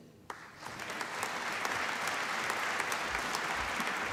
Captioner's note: applause